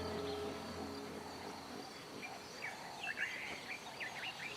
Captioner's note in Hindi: चहचहाहट